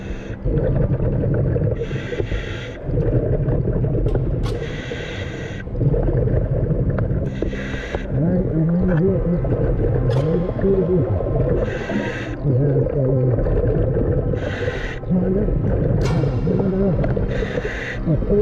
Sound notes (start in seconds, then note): 2.8 deep breathing